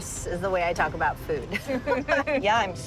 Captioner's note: laughing